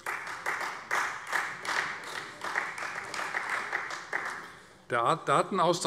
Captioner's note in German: Beifall Freie Demokraten